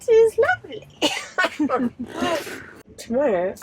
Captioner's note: laughs